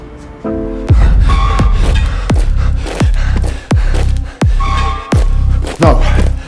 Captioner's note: menacing music; marching sound